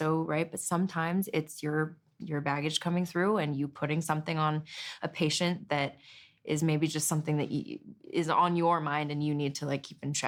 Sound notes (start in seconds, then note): none